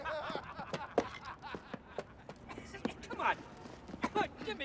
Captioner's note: men laughing